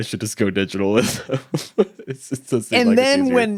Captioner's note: chuckling